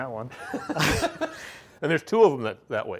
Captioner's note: both laughing